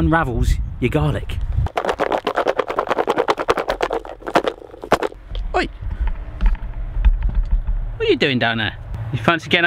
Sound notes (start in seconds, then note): 1.6 object thumping; 4.4 rhythmic thumping